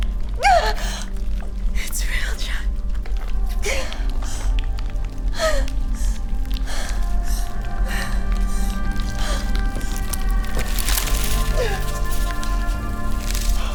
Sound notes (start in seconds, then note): 5.3 Maddy whimpers